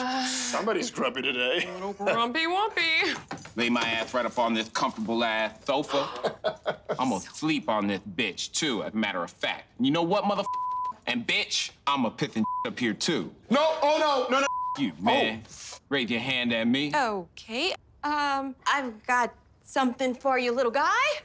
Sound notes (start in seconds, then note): 5.8 laughs